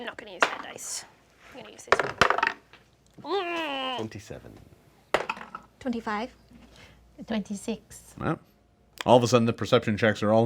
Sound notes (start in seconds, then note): 2.3 dice roll; 3.2 groans; 5.6 dice roll